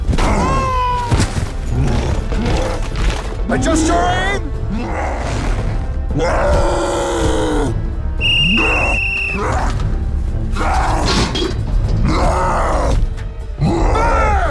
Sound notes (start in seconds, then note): 0.2 soldier 3 screams; 0.2 suspenseful music playing; 4.6 cyclops roaring; 8.1 whistles; 12.0 roars